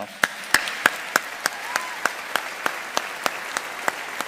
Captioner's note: audience applauding